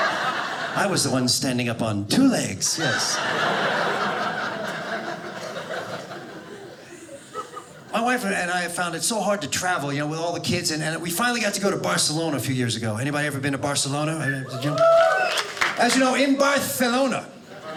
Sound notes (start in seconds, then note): 2.7 audience laughing; 14.4 audience cheers